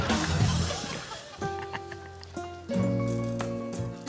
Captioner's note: chuckles